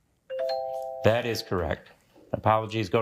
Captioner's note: bell dings